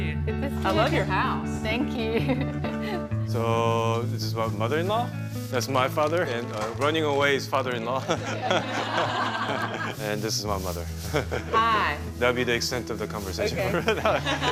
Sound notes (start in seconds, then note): 2.1 laughs; 8.0 all laughing; 13.7 laughs